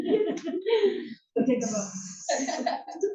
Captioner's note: laugh; laugh